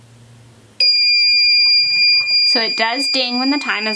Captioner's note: machine beeps